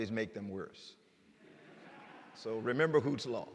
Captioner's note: laughter